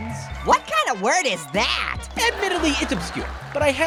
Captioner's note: audience laughs